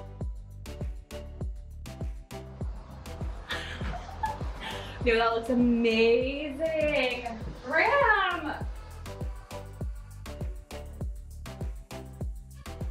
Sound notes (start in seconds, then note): 3.5 giggling; 9.2 upbeat electronic music